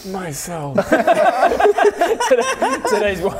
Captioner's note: horrified laughter